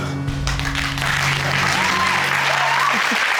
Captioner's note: audience applaud